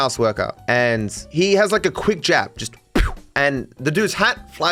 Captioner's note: poof